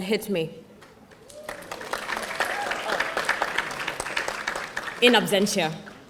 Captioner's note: audience applauding